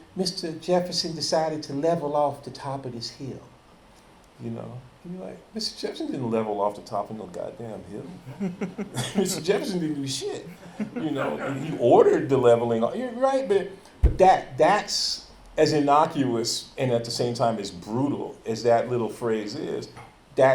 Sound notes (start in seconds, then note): 8.0 chuckles; 10.4 audience laughing